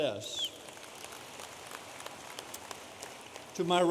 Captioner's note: audience applauding